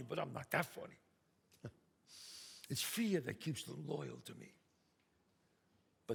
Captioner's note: scoffs